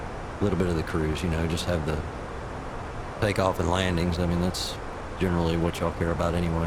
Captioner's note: radio chatter